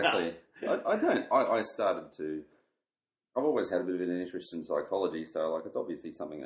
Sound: laughs

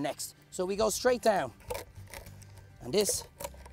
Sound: crunching noise

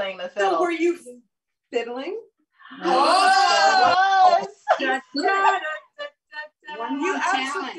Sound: humming a tune

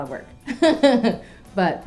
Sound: laughing

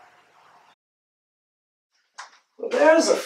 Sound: footsteps of dad

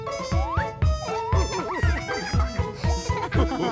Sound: laughter

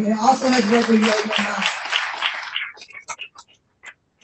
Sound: applause

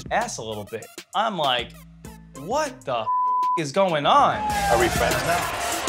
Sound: beep

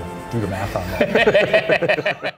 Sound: laughing

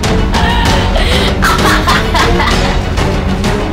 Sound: laughs

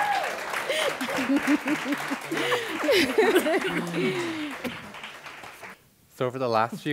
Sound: applause and cheering; and others begin laughing, applause

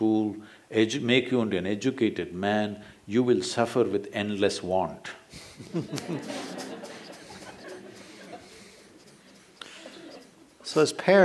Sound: laughter

